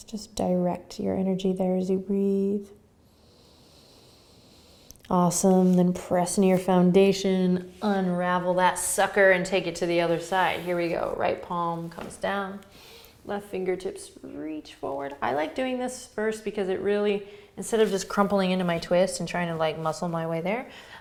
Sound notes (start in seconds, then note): 3.0 inhaling